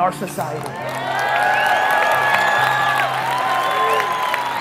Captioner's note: crowd applause